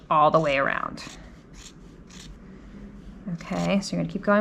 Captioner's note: scissors snipping